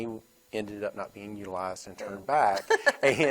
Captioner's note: laughs